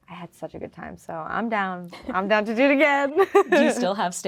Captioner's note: laughing